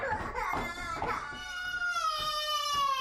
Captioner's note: cries